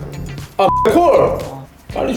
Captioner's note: excited